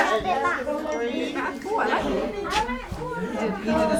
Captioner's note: general background chatter